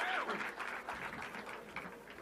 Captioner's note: applause